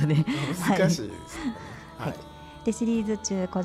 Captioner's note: laughs